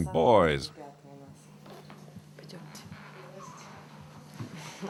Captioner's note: Russian spoken audio